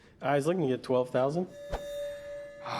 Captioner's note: metallic ringing; rick groans